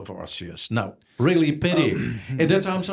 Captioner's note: clears throat